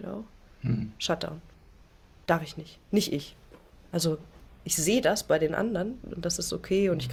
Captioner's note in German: räuspern